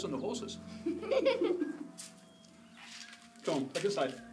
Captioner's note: giggling